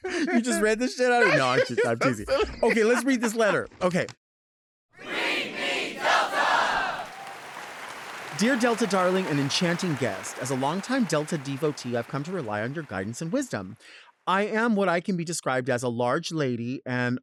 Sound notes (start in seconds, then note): 1.7 laughing; 7.3 audience clapping and cheering